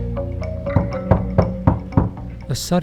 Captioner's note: knocking at the door